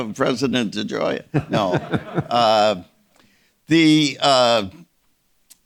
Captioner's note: Czerny chuckling